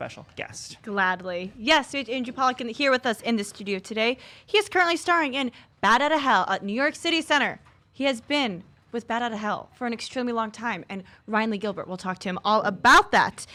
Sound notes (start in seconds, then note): none